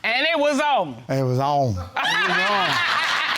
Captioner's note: audience laughing